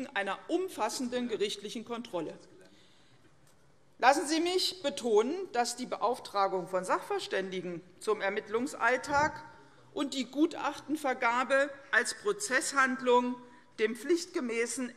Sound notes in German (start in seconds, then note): none